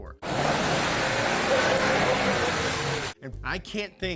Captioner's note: engine whirring